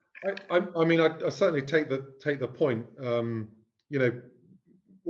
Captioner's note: laugh